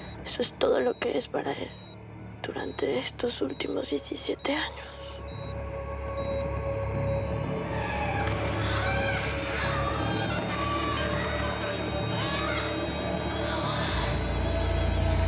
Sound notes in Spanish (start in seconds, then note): 11.0 Gritos